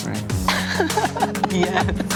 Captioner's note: laughs